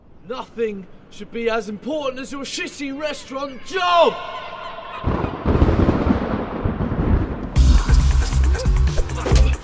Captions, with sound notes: Nothing should be as important as your shitty restaurant job! [Thunder] [Explosive Dance music]